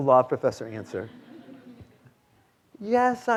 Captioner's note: students laughing